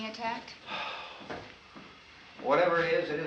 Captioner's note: sighs